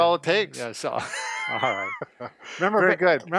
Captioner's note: laughing